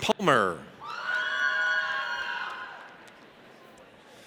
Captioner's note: audience cheers